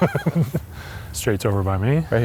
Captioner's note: laughs